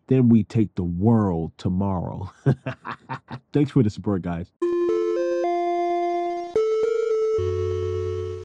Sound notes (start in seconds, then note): 2.4 laughs; 4.6 upbeat music